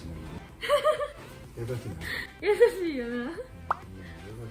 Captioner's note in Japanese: 笑い声